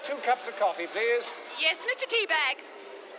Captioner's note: over intercom